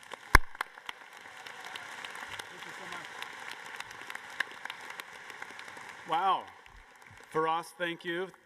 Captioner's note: applause